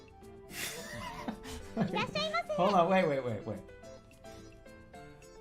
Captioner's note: bursts out laughing